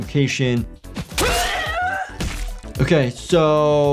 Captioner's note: character screams painfully